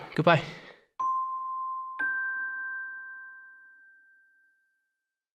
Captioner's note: chimes play